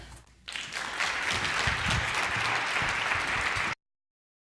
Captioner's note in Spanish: Aplausos